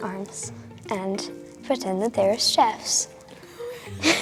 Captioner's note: laughs